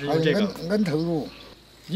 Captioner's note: with an accent